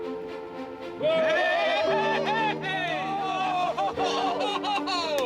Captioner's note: cheering